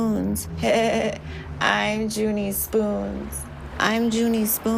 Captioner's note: laughs